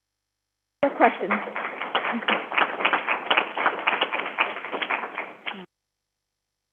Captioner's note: crowd applauding